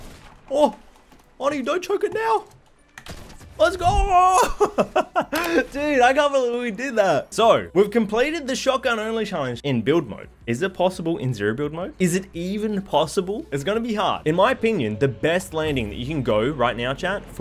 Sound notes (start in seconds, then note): 4.3 laughs